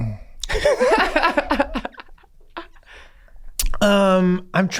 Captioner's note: gang laughing